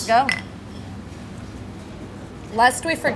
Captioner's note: glasses clink